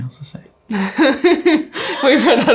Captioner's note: chuckles